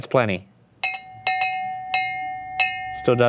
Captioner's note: bell chimes